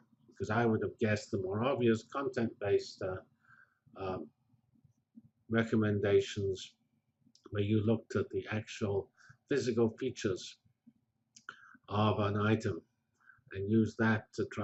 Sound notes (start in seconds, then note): 3.1 pause